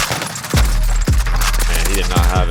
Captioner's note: gun fire